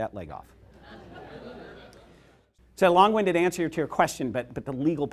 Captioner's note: laughther